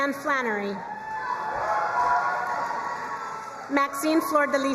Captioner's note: crowd cheering and applauding